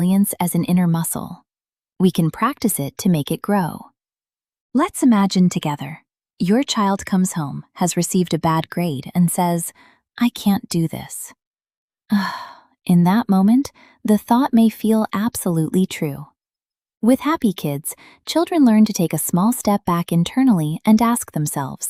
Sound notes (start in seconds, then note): 12.1 sighs